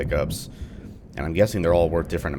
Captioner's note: thunder